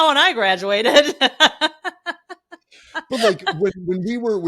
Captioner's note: laughing